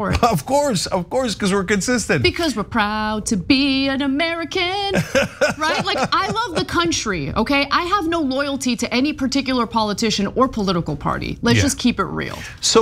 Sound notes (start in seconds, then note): 4.9 laugh